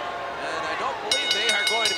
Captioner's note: bell ringing